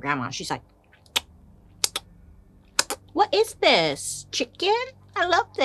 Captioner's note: smacking lips